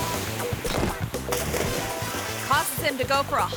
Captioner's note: dramatic instrumental music; visitor thuds and splashes